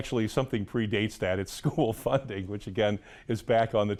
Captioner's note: laughs